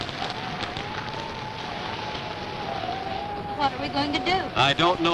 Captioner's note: wind howling